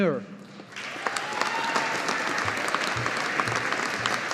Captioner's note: audience applauding